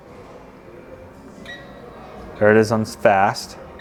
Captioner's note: remote beeps